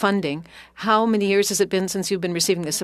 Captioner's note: speaking French